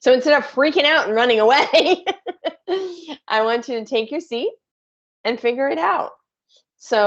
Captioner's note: laughs